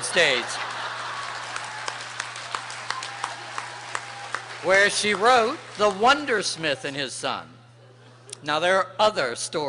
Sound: applause

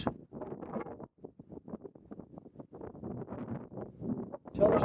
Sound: wind noise rustle

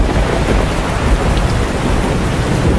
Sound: heavy rain and wind

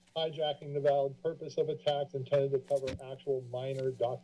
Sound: mic noise

